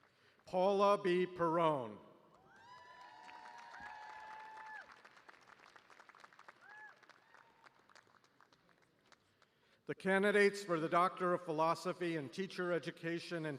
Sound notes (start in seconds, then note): 0.0 cheers and applause; 4.5 cheers